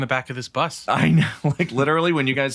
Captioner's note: chuckles